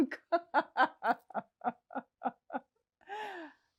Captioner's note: laughing